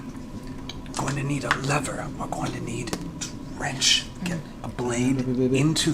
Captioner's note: whispers